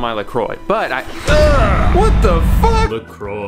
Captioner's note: makes sound of disgust